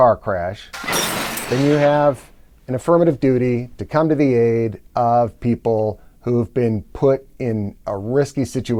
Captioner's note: crashing car